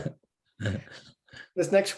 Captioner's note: laughs